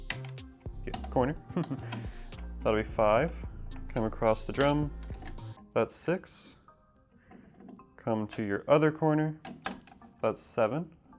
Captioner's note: laughing